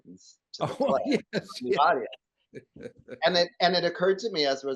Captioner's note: laughs